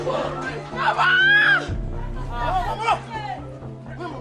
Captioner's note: screaming